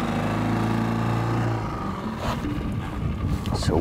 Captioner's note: engine rumbles